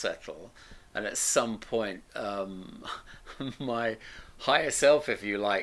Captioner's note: laughs